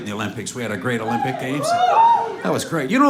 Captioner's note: crowd hoots